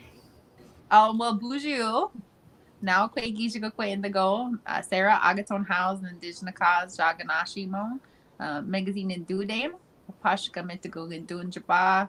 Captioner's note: speaking Ojibwe